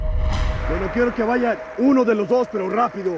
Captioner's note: speaking spanish